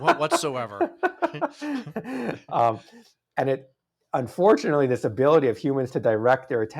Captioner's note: laughs